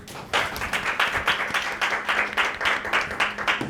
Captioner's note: audience applauds